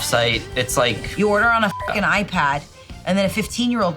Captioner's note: beep